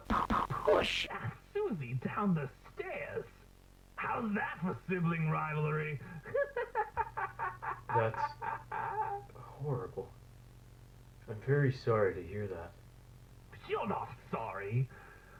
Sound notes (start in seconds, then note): 6.2 maniacal laughter